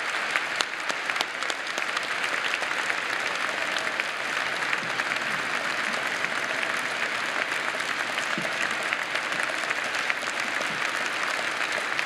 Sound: applause

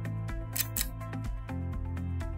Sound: click

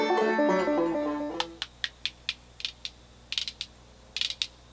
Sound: spoons clicking

